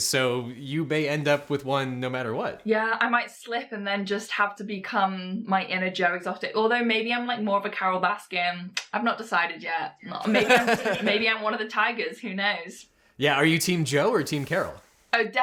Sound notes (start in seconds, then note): 10.2 host laughs